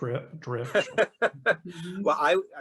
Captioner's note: laughing